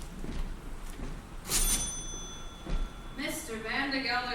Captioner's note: cash register "cha-ching"